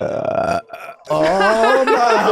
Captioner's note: Charlie burping